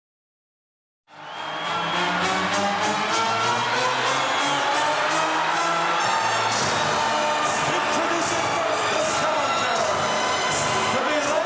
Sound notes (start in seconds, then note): 1.1 audience cheering; 1.2 triumphant music